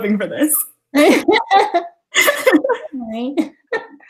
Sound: laughing

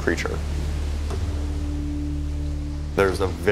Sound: waves crashing; tranquil flute music

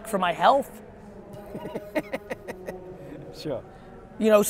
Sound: laughing

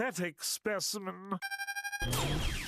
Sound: electronic beeping

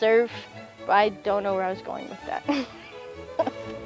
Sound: laughing

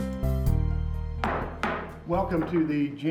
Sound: gavel banging

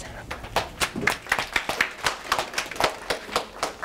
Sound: audience clapping

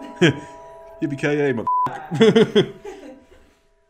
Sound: laughs

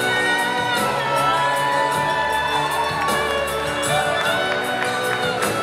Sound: wedding attendees cheering

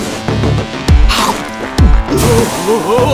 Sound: crunching; screaming

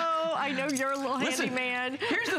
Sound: laughter

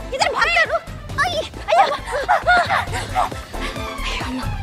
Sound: wheezing

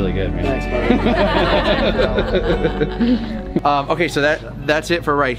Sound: all laugh

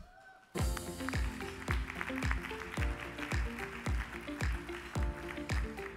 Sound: audience applauds; upbeat music

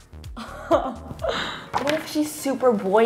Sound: laughing

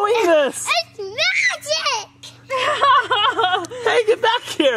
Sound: laughter

